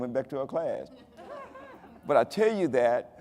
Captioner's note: audience laughing